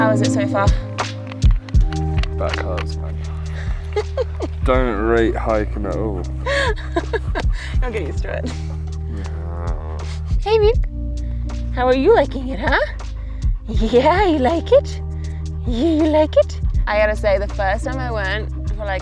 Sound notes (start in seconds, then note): 6.9 laughing; 9.2 groans